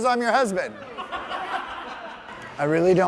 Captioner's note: people laughing